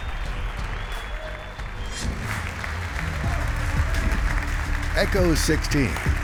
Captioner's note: applause